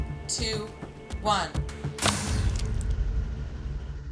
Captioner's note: whooshing and splatting